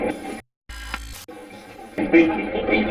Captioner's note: static fizzing